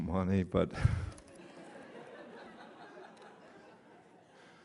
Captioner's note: laughter